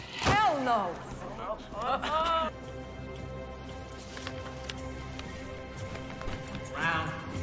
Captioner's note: laughing